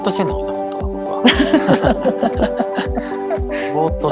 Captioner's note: laugh